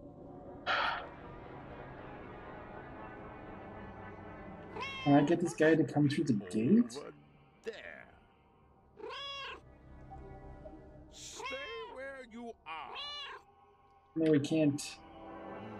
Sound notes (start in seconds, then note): 0.7 sighs; 4.6 Hodge meows; 12.7 Hodge meowing